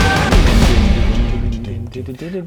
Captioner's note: totally distracted dededer noises